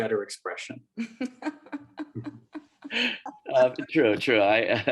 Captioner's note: laughter